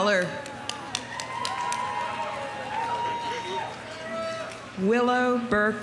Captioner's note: audience applauding; audience cheering